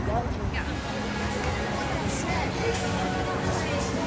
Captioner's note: people chattering